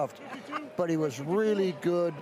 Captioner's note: laughs